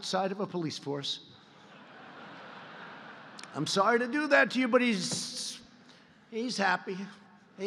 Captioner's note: laughter